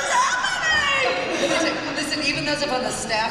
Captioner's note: laughter